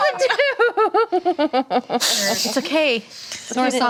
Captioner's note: laughing